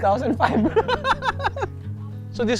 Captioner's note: laughs